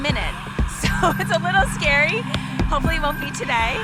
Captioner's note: laughs